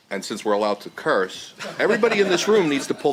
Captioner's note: laughter